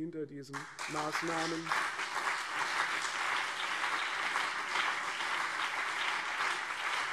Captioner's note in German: Anhaltender Beifall CDU und BÜNDNIS 90/DIE GRÜNEN